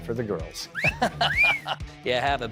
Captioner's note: whistling; laughing